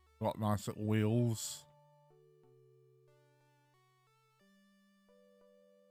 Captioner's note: none